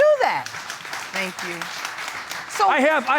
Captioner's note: audience claps